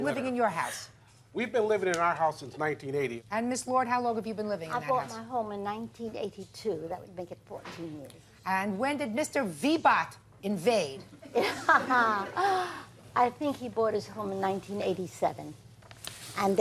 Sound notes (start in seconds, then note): 11.3 laughs; 11.3 audience laughs